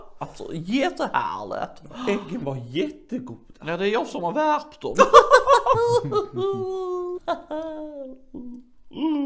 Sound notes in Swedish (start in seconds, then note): 5.0 skrattar